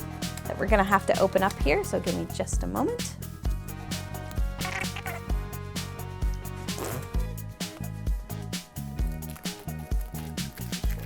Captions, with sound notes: that we're gonna have to open up here. So, give me just a moment. (squeaking) (spitting)